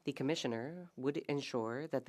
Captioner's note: speaking French